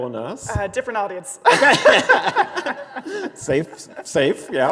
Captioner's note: both laughing